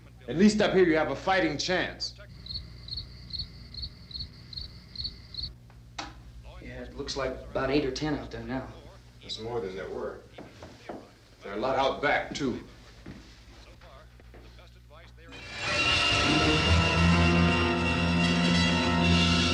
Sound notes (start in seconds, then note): 2.1 insects chirping; 13.8 murmuring; 15.4 dramatic instrumental music